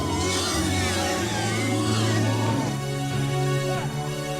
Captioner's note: trogs growling; suspenseful music